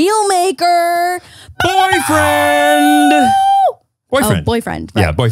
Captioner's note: mimics a blow horn